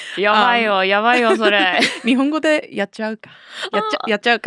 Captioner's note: speaking Japanese